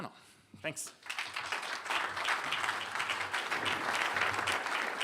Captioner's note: applause